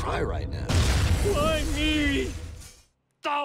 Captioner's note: object explodes